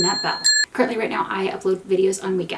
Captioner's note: bell rings